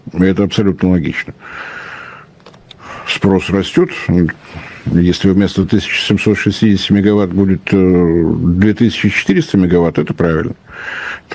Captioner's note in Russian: вздыхает